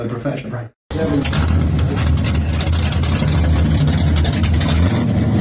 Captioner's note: vehicle engine purring